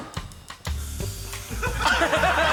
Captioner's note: suspicious percussive music; can hisses; laughter